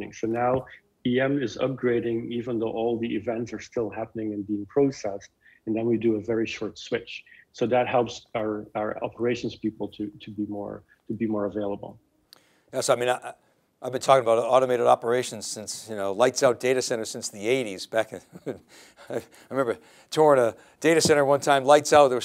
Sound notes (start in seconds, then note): 18.2 laughs